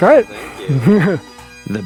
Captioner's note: laughs